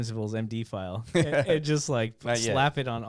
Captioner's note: laughing